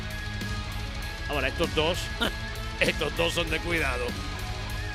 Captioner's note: laugh